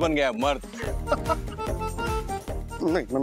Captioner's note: laughing